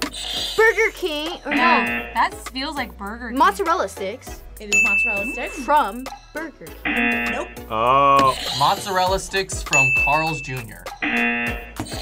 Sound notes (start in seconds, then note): 1.5 buzzer rings; 6.8 buzzer; 6.8 buzzer rings; 11.0 buzzer